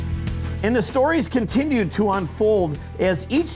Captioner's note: voiceover